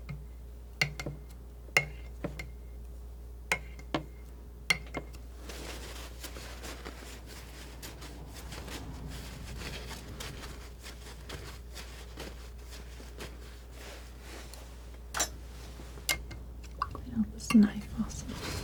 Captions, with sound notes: (scratching) Clean out this knife also.